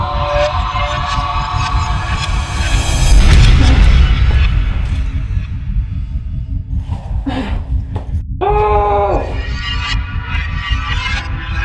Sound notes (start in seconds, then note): 2.0 dramatic, tense music; 7.2 Ryan grunts; 8.4 Ryan yells